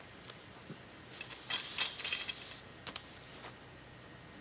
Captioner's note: gate rattles